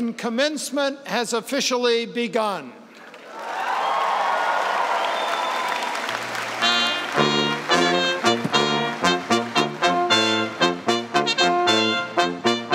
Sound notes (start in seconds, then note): 3.1 cheers and applause; 6.4 band plays